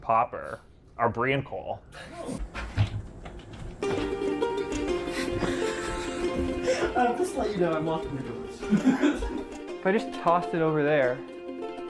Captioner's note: laughs